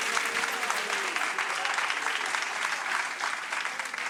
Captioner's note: audience applauding